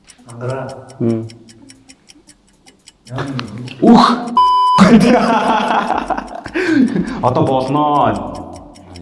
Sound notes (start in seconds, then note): 4.8 инээх